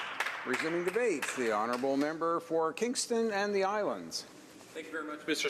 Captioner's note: applause